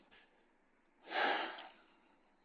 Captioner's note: sighs